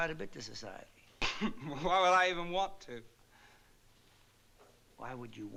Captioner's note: scoffs